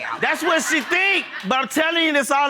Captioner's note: audience laughing